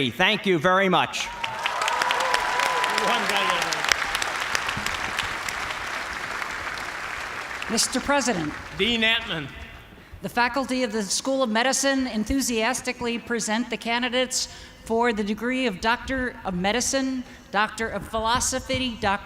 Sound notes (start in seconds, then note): 1.2 cheers and applause